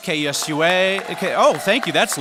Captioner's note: cheering and applause